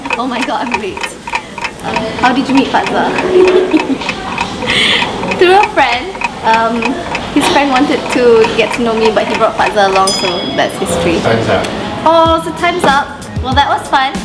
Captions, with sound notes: Oh my God, I'm late! How did you meet Fadza? [Giggles] Through a friend His friend wanted to get to know me but he brought Fadza along, so... That's history. - Time's up. Aww, so time's up! Well, that was fun!